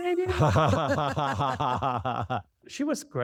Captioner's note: laughter